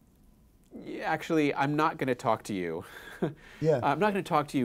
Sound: laughs

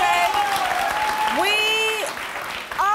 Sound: applause

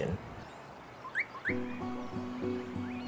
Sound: birds chirping

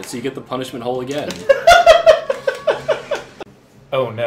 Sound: laughs

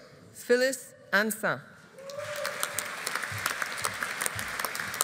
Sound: audience applauding

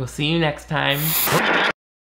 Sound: TV static

